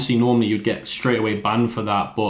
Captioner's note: fingers snapping